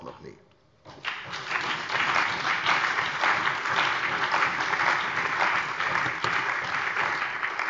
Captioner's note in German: Beifall bei der CDU und dem BÜNDNIS 90/DIE GRÜNEN